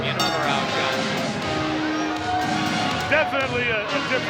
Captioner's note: bell rings